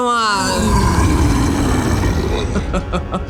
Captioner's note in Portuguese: rosnado furioso; risada